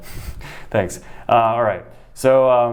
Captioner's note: chuckles